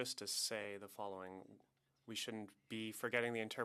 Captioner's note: speaking French